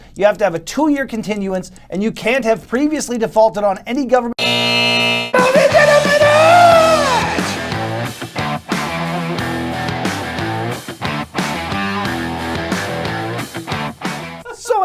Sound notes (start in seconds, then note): 4.4 buzzer sounds; 6.4 guitar riff plays; 10.3 laughs off-screen